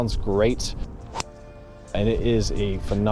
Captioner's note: club smacking ball